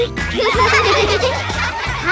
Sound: laughing

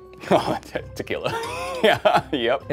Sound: laughs

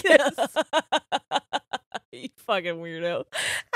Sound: both laughing

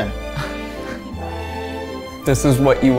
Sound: laughs

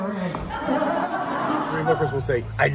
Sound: laughter

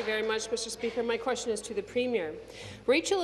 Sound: applause

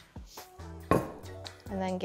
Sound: rolling pin clunking on counter

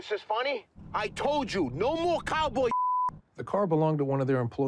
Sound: beeps

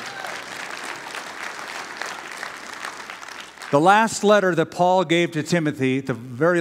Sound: applause

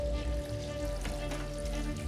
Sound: door opens

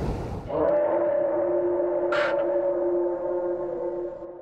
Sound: howl in the distance

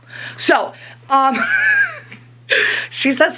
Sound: laughs

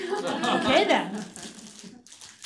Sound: laughter

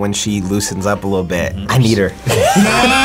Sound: laughs

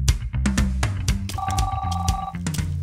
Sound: upbeat music; phone rings

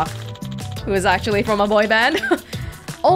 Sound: chuckles

